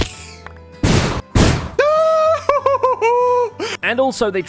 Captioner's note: many rabbits dying; thump; wind burst blast; hollers